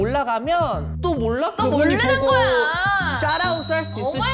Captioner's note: hopeful sound effect